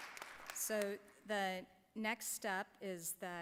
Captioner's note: applause